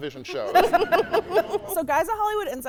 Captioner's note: hosts laughing